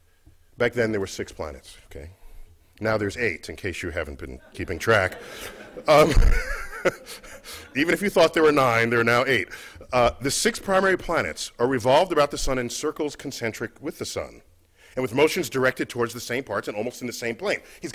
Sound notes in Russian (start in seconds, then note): 4.3 Cмех